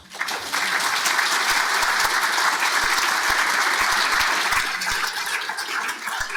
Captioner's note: audience clapping